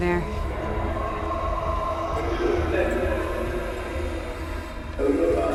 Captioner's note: distorted speaking